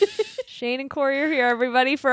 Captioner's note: laughing